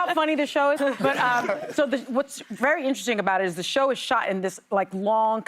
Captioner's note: laughter